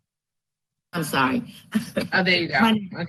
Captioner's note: laughs